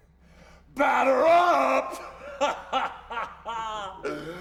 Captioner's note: laughs